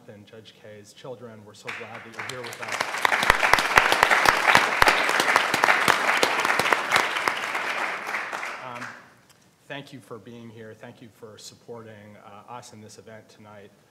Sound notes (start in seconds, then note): 4.3 everyone applauds